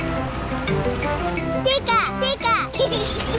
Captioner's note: giggles